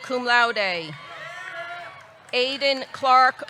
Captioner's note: audience cheering